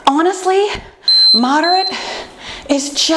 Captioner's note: timer beeping